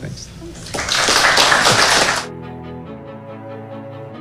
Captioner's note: clapping